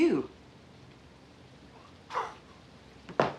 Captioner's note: chuckling